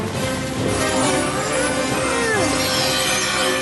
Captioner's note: grunting